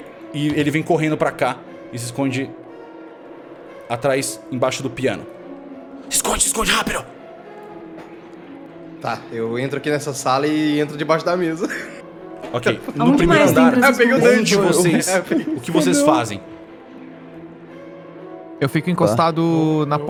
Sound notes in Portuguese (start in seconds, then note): 11.4 risos